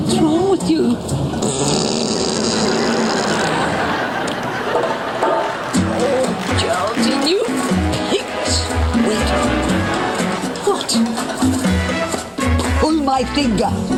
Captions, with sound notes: What's wrong with you? (breaking wind loudly) - Oh... - Geraldine you pig! (audience laughing) - Wait. - What? - Pull my finger.